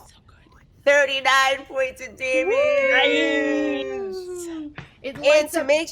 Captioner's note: group hoots